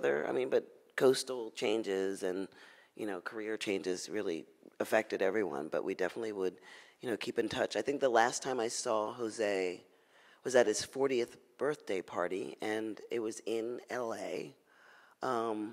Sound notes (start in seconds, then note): none